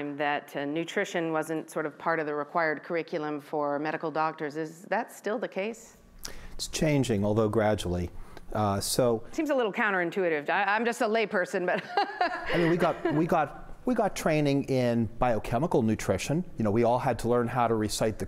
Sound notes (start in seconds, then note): 11.8 laughing